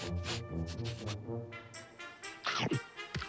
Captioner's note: sniff sniff